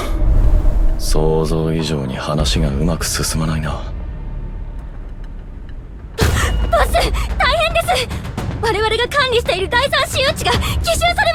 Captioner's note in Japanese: 笑い